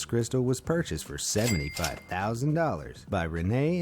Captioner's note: cash register ringing